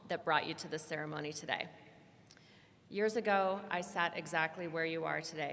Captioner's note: none